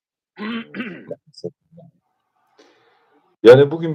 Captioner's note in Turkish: boğazını temizler